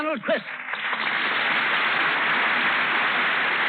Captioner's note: applause